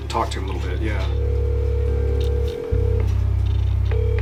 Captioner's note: phone ringing